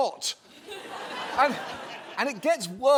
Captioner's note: audience laughs